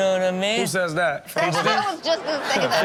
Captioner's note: audience laughs